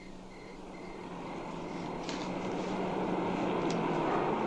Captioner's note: car pulls up